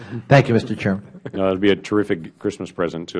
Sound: laughter

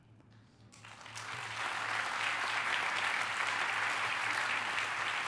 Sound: applause

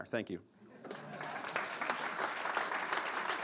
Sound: laughter

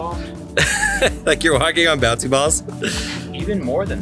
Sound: laughs

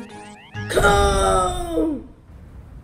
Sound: yells in pain

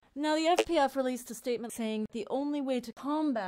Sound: disconnect sound

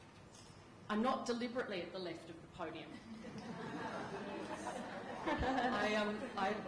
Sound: laughter

